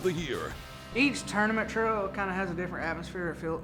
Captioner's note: voiceover